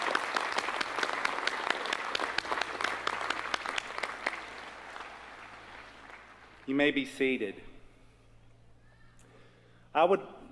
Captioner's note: applause